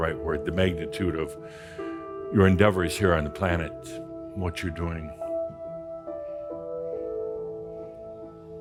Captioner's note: none